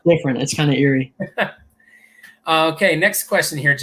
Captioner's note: laughter